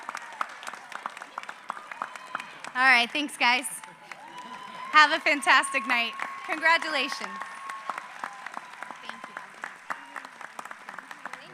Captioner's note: applause